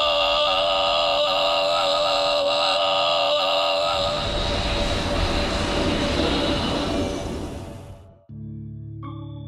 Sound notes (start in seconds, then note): 4.0 spaceship whooshing; 8.3 soft organ music